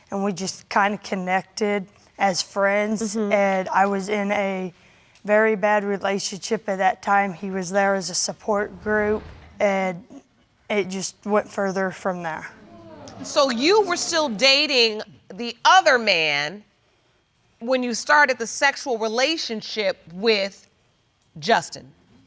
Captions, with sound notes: And we just kinda connected as friends. And I was in a very bad relationship at that time. And he was there as a support group. And it just went further from there. (AUDIENCE EXCLAIMING) So you were still dating the other man when you started the sexual relationship with Justin.